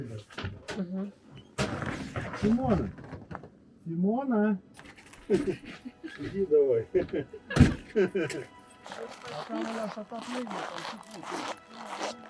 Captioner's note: sound of footsteps in the snow